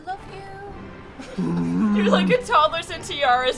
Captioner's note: distressed growls